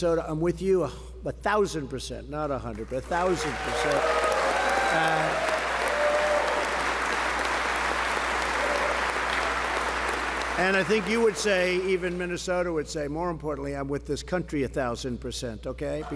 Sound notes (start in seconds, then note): 4.5 applause